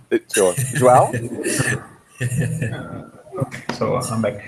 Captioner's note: laughter